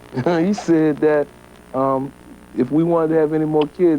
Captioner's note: chuckles